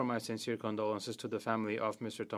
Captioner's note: speaking French